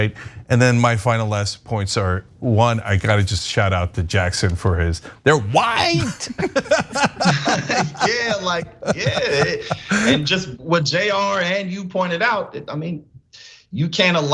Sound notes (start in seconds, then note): 8.5 laugh